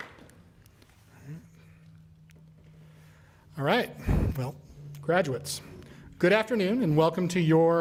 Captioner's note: applause